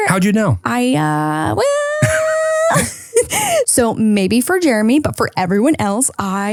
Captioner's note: laughs